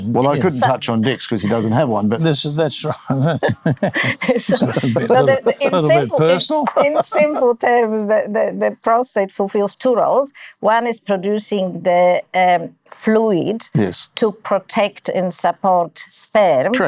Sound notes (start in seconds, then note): 2.5 laughing